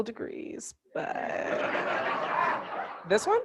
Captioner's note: audience laughing